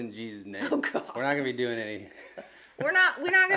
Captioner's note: laughs